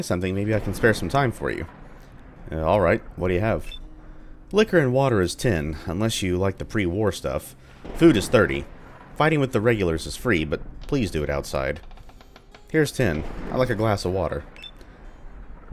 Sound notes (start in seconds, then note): 2.1 thunder; 7.4 thunder; 15.1 thunder